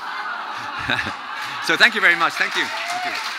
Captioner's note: audience chuckling